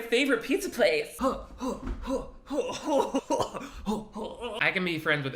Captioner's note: grunting